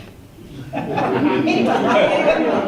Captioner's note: laughter